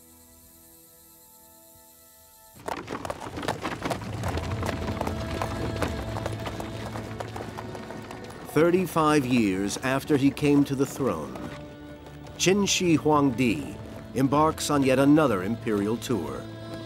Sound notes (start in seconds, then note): 3.0 carriage rattling; 3.0 gentle thoughtful music